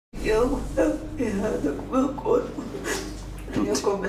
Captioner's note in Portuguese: chorando